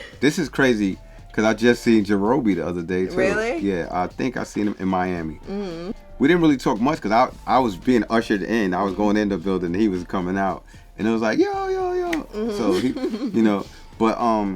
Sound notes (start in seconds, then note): 12.0 hands clapping